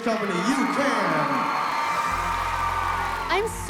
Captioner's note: applause